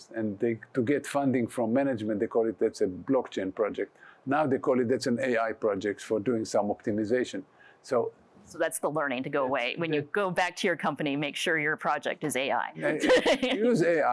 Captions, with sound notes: And to get funding from management, they call it as the blockchain project. Now, they call it as an AI project for doing some optimization. So that's the learning to go away. When you go back to your company, make sure your project is AI. [LAUGHS] Use AI.